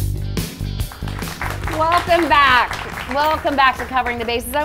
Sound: upbeat music; audience clapping

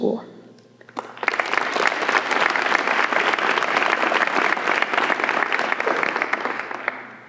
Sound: applause

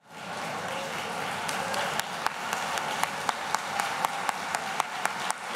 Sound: audience applauds and cheers

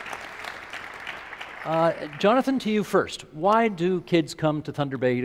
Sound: applause

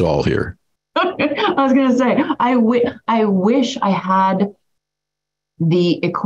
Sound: laughs

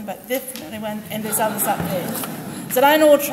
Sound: group laughs

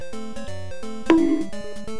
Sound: bonk

